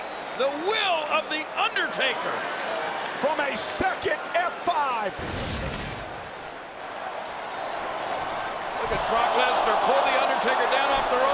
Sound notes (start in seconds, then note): 0.0 crowd clamoring; 5.1 graphics whooshing